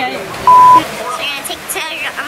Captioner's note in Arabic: زمارة